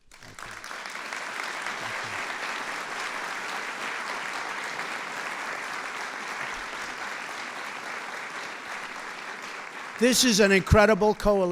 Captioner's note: applause